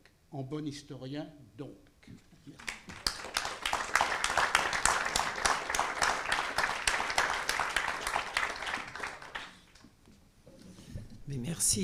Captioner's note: applause